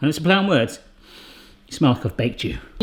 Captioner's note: inhales deeply